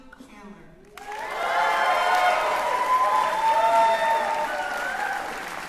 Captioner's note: cheering